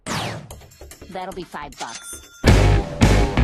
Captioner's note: cash register noise